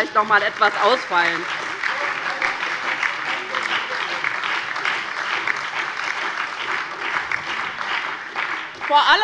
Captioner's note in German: Beifall bei der LINKEN, der SPD und der FDP